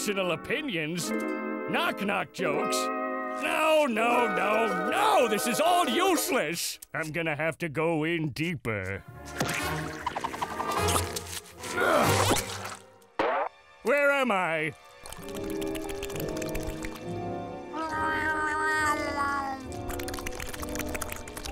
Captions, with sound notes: Personal opinions, knock-knock jokes. No, no, no, no! This is all useless! I'm going to have to go in deeper. [grunting] Where am I? [meowing]